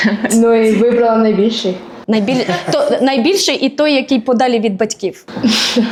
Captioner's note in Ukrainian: сміх